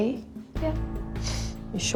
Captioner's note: sniffles